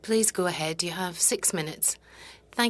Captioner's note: speaking French